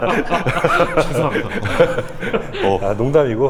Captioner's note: nervously